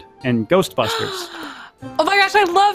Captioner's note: gasps